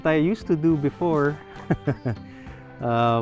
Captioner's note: laughs